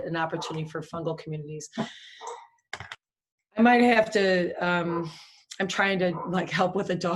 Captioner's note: dog barking